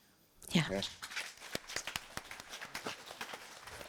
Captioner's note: applause